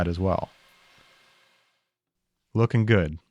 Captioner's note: lathe whirring